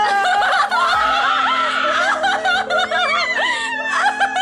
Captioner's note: laughing; screaming